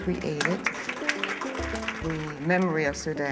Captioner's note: applause